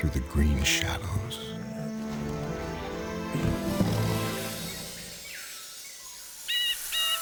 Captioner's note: soft dramatic music; animals growling; birds calling; gentle orchestral music